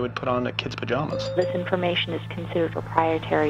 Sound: female on phone

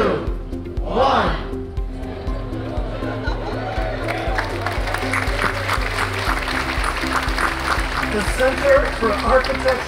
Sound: applause

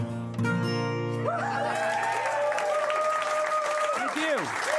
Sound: cheers and applause

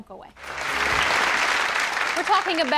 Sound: applause

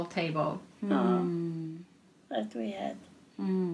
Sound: foreign language

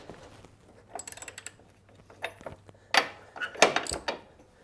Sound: metal clanging

